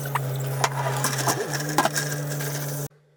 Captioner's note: construction noise